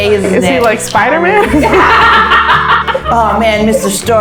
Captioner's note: laughter